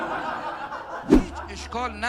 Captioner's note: laughter